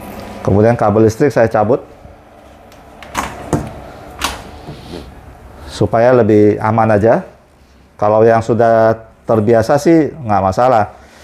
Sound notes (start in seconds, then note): 2.5 unplugging cable noise